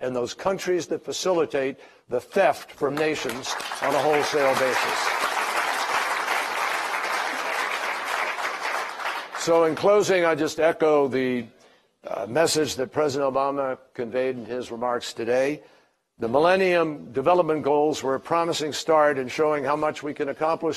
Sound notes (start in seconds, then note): 6.2 applause